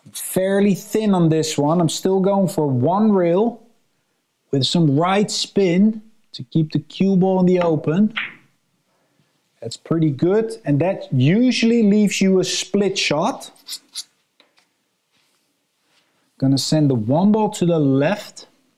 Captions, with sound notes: Fairly thin on this one. I'm still going for one rail with some right spin to keep the cue ball in the open. (balls clinking) That's pretty good and that usually leaves you a split shot. Gonna send the one ball to the left.